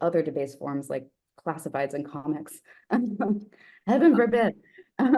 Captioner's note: chuckles